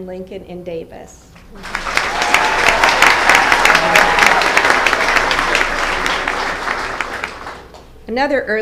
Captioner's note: applause